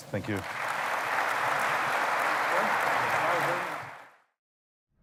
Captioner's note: applause